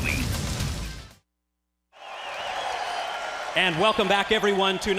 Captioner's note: crowd cheering